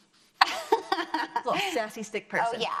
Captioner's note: laughs